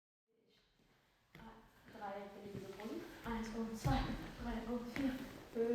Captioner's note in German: jemand zählt